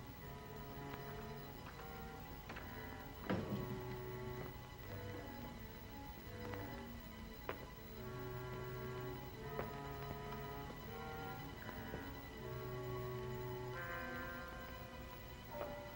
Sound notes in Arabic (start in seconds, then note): 0.2 موسيقى ناعمة مخيفة; 2.4 يغلق الباب; 5.3 موسيقى مشؤومة